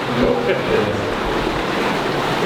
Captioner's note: laughs